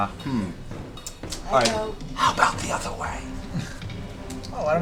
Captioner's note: whispers